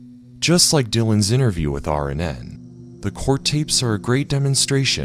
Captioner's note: none